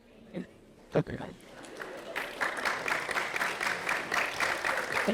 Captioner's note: applauding